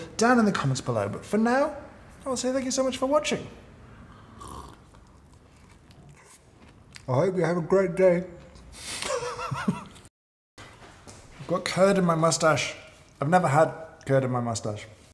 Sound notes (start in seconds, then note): 4.1 slurps coffee; 4.6 bites into the tasty treat; 9.0 laughs